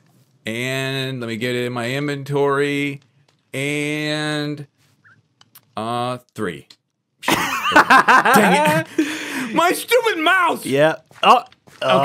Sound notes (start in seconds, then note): 7.3 laughs